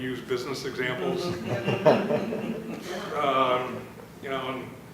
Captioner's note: laughter